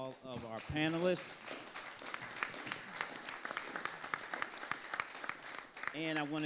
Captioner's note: audience applauding